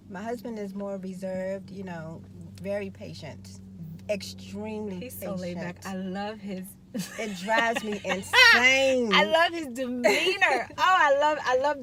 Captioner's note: laughing